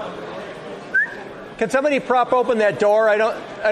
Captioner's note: whistles